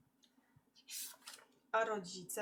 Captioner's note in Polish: szelest kartki